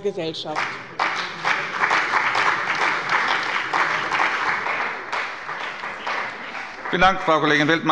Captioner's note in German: Beifall bei dem BÜNDNIS 90/DIE GRÜNEN und der CDU